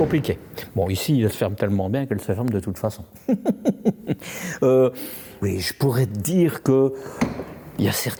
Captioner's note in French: rires